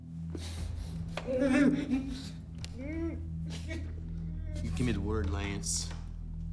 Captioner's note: Frank whimpers